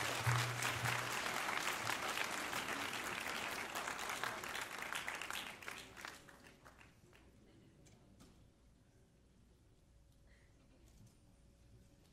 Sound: applause

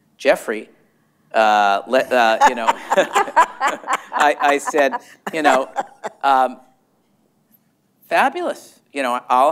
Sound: laughter

